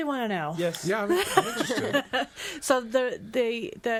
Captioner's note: all laughing